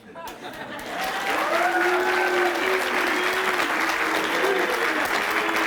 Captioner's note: audience laughing and clapping